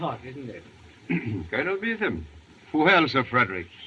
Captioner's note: clears throat